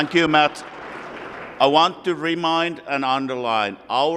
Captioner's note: applause